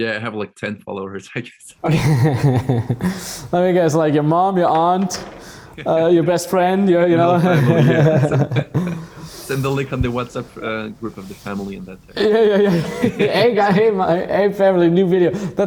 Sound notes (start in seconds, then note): 1.8 laughing; 7.1 laughing; 8.9 laughs